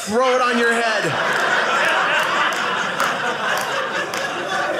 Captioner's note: audience laughing